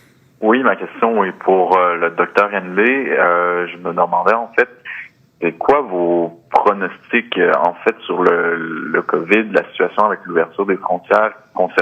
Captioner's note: speaking French